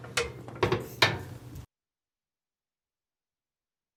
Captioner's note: door closes